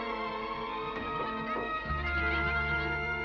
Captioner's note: laughter and playful chatter